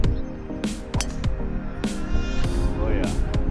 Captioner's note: upbeat pop music; golf club whacking